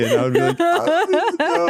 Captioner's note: laughing